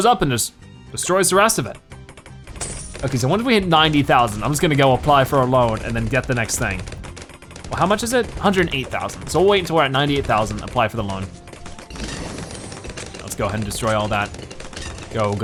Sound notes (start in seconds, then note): 12.4 weapons Firing